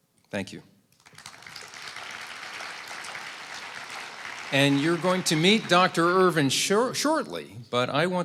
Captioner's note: applause